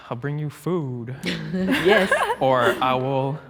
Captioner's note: group laughs